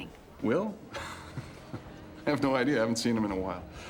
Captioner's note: chuckles